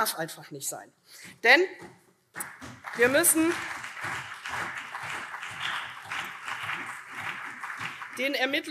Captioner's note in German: Beifall CDU